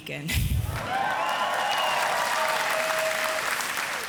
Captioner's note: audience applauds